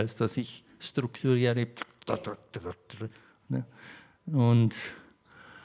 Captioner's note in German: macht Taktgeräusche